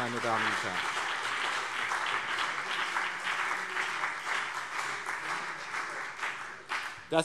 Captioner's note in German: Beifall BÜNDNIS 90/DIE GRÜNEN und CDU